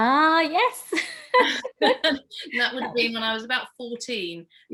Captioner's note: laughs